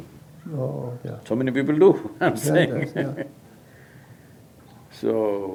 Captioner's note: laughs